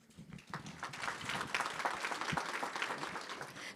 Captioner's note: audience applauding